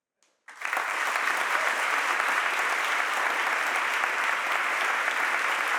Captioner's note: audience applauds and cheers